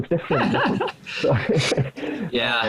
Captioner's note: laughing